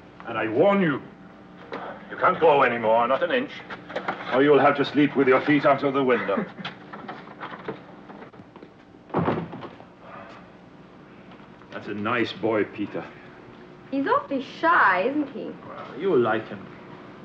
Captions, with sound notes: And I warn you, you can't grow anymore, not an inch or you'll have to sleep with your feet out of the window. (Peter chuckling) That's a nice boy Peter. - He's awfully shy, isn't he? - Well, you will like him.